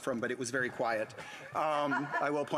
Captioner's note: some Applause